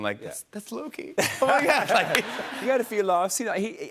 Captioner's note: laughter